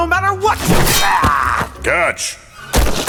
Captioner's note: metal banging; insect guy groaning